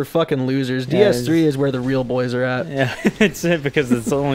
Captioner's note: laughing